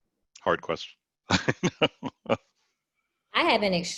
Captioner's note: laughs